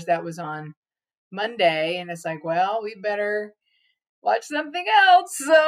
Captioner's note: laughs